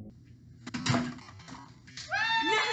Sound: objects thuds; both cheering

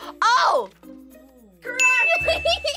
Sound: bell rings; laughs

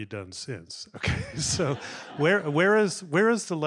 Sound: laughs; audience laughing

